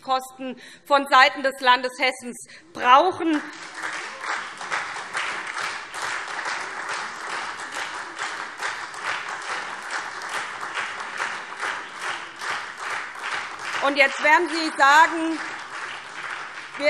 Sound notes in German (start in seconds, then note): 3.1 Beifall SPD